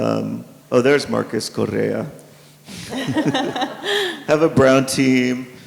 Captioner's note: participants laugh